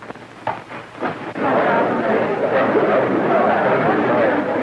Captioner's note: chattering